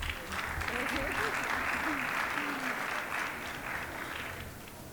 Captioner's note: applause